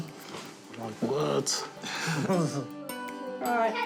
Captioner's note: chuckles